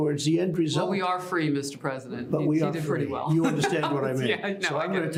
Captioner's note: laughs